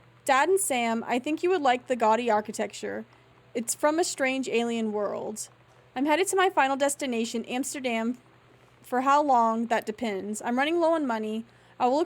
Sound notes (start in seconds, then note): none